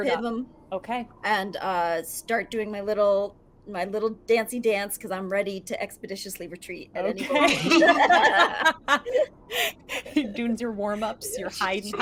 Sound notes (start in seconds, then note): 7.2 all laugh; 11.8 laughs